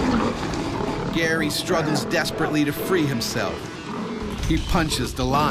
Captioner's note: voiceover